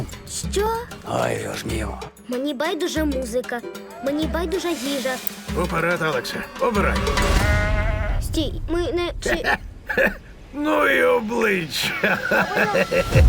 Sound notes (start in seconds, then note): 7.3 goat bleats; 9.2 laughs